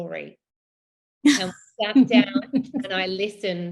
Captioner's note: laughs